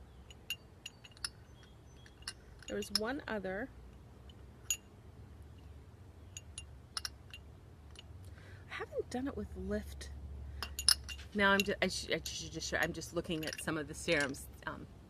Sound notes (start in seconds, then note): 0.2 glass clinking; 4.6 glass clinking; 10.6 glass clinking